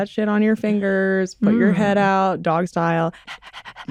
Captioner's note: mimics dog panting